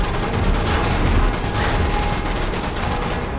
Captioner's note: gunfire